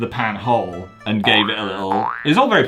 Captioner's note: spring sounds